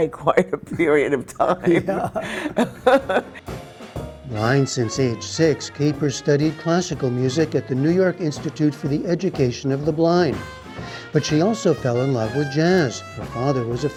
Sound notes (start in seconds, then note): 1.6 laughter